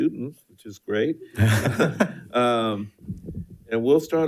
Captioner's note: board Members laughing